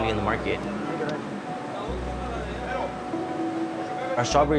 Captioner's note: speaking spanish